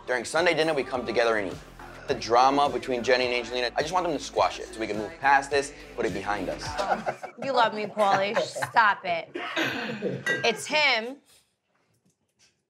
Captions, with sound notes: during Sunday dinner, we come together and eat. The drama between Jenni and Angelina, I just want them to squash it so we can move past this, put it behind us. (laughing) - You love me Paulie, just stop it. It's him and her.